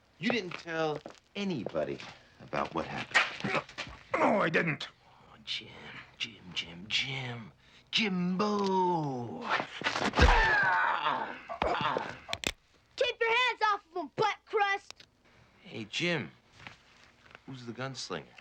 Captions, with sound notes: You didn't tell anybody about what happened. - No, I didn't. - Aw Jim, Jim, Jim, Jim. Jimbo. (blow thuds) (Jim groaning) (gun clicks) - Keep your hands off of him butt crust! - Hey, Jim, who's the gunslinger?